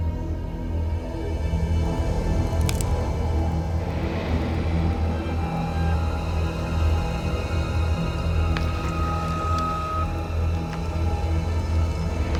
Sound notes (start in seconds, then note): 2.5 twig snaps; 4.8 low rumbling